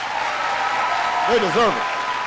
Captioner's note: applause